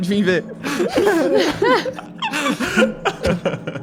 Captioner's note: laughs